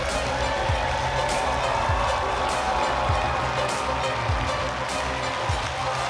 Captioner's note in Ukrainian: оплески